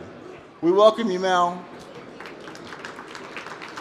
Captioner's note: applause